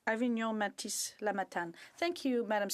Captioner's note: speaking FRENCH